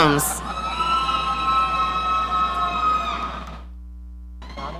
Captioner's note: audience cheering